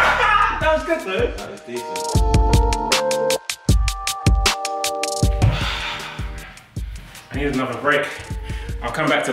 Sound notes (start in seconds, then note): 0.0 laughs; 3.3 upbeat music